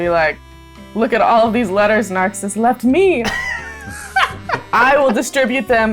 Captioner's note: laughter